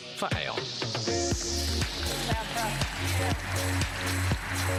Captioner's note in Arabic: تصفيق